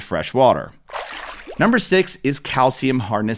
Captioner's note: water splashes